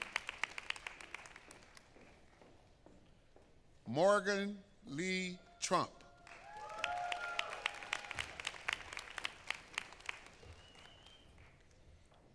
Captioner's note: applause